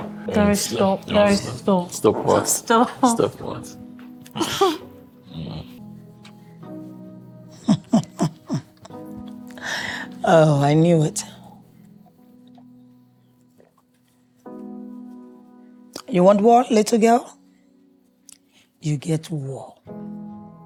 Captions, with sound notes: DARE stop, no, stop. Stop what? Stop. Stop what? (laughing) Oh, I knew it. You want war, little girl? You get war.